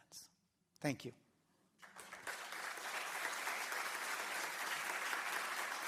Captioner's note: applause